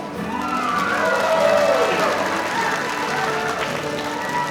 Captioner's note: audience cheering